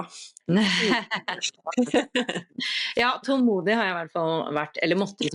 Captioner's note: laughter